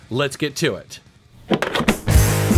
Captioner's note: cartridge clunking; upbeat rock music